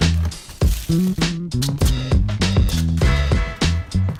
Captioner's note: rustling